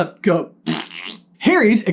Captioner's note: fart noise